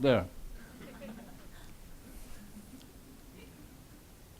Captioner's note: audience laughs